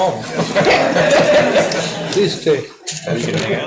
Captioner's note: audience laughing